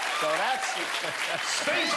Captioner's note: cheers and applause